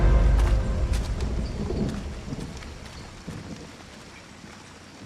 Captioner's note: thunder rumbles